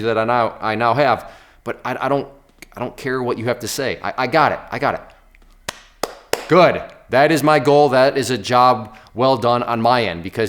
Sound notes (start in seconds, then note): 6.0 applauding